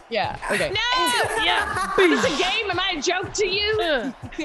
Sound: laugh; laugh

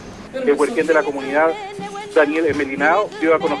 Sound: Voice: National Radio

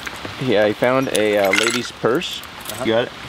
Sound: clanking

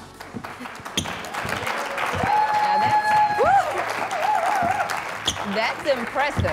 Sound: audience applause and cheers

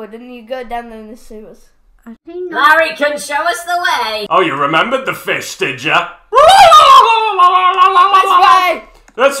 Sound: screams in fish

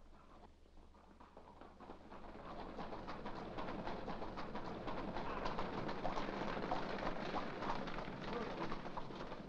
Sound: hooves trotting

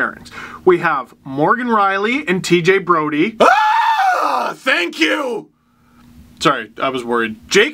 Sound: scream of relief

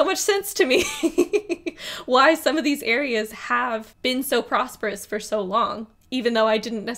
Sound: laughs

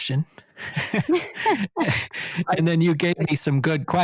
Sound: chuckles

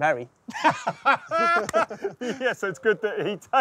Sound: laughs

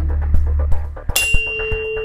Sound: tuning fork rings

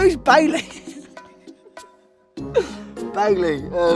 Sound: laughing

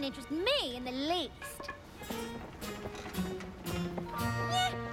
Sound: bat clatters; soft, dramatic music plays

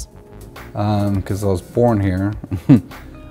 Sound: chuckles

